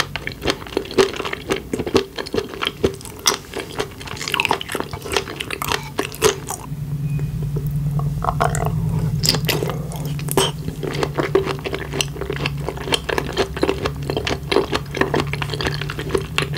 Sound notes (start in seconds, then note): 10.2 sound from throat~